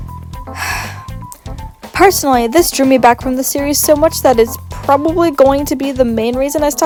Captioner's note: sighs